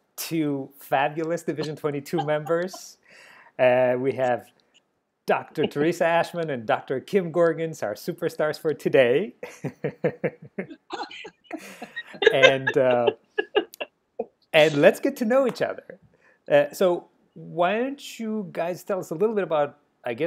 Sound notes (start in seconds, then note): 9.6 laughing